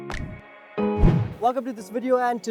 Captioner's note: whooshing